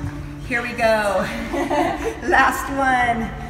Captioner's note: laughs